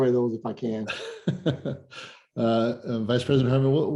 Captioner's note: laughs